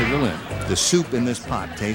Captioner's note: laughing